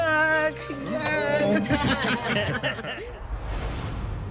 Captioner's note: laughter